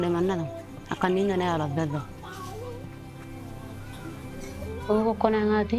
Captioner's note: speaking in foreign language